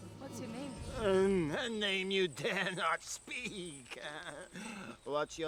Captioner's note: laughs